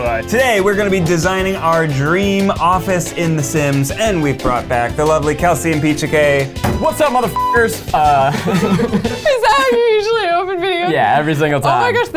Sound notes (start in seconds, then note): 8.0 laughing